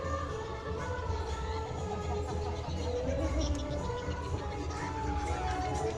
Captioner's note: giggles